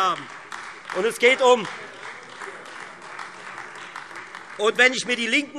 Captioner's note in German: Beifall Freie Demokraten und vereinzelt AfD